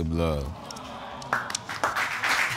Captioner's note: audience awing